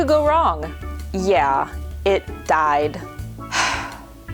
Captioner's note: sigh